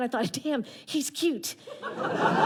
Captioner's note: audience laughter